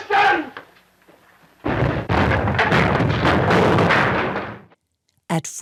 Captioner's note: explosion sounds